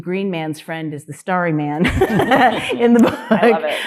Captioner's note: panelists laughing